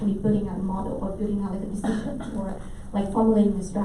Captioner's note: coughing drowns out speaker